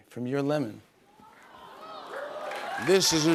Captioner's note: applause